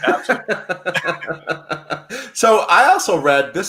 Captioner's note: laughing